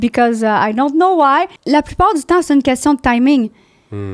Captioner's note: in french